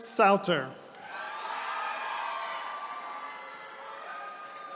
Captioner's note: attendees cheering